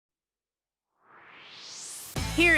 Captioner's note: swoosh